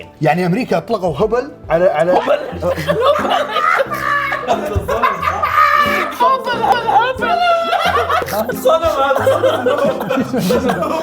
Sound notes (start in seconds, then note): 2.0 hysterical laughing; 6.1 mocking